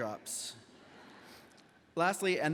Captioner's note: audience laughs